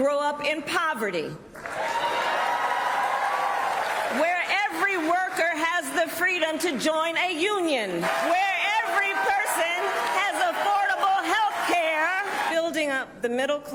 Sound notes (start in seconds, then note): 6.2 cheers and applause